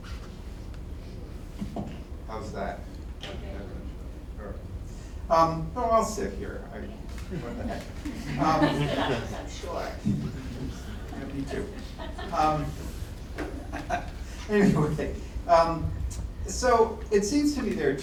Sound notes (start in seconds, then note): 7.3 laughter; 13.4 laughs